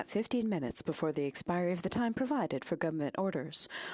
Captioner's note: speaking French